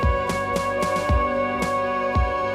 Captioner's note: none